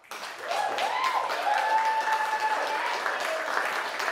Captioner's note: crowd cheering